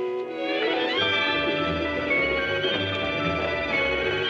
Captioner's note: chattering